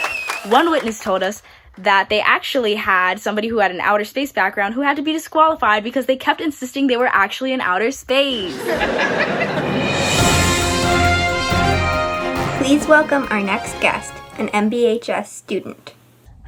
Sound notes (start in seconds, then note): 8.3 audience laughing; 10.2 orchestral music